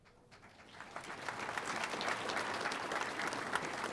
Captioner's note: audience applauding